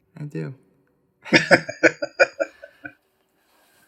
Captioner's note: laughing